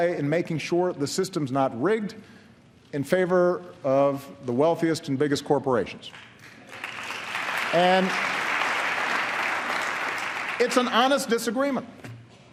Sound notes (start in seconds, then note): 9.4 applause